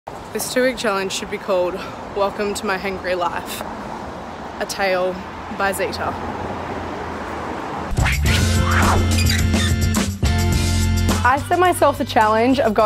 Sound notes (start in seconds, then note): 7.9 squeaking; 7.9 upbeat funky music